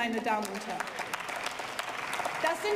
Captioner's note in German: Beifall